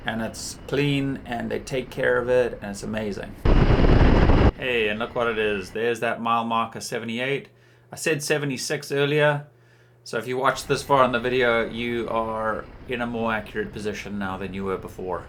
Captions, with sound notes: And it's clean and they take care of it. And it's amazing. (thunder rumbling) Hey, and look what it is. There's that mile marker 78. I said 76 earlier. So if you watched this far on the video, you are in a more accurate position now than you were before.